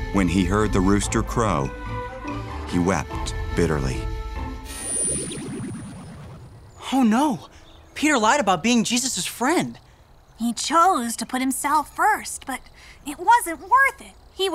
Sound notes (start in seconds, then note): 4.9 light airy music; 4.9 light buzzing